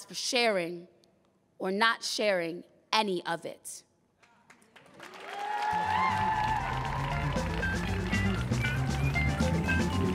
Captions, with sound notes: for sharing or not sharing any of it. (audience cheering) (playful music)